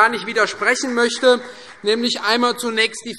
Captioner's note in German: Vereinzelter Beifall CDU